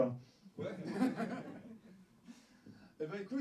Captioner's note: laugh